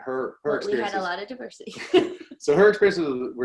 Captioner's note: laughter